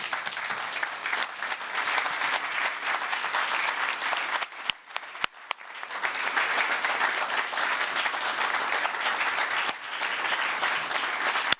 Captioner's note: applause